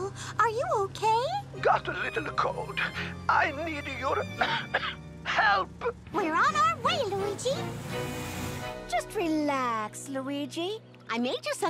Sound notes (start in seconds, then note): 4.3 coughs